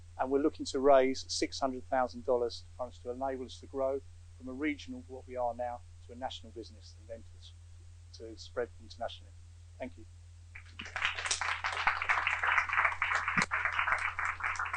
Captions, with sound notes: And we're looking to raise $600,000 in funds to enable us to grow from the region of what we are now, to a national business, and then to spread internationally. Thank you. [APPLAUSE]